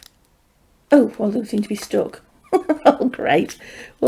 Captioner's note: chuckles